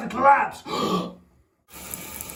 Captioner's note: gasps